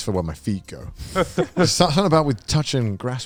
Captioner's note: laughs